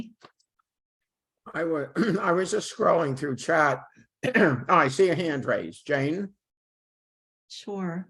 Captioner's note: clearing throat